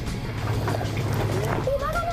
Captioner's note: flapping